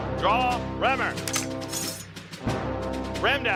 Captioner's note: metal clashing